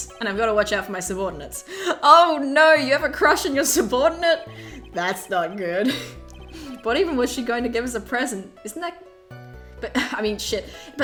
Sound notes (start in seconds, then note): 6.0 laughs